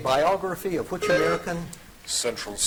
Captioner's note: buzzer dings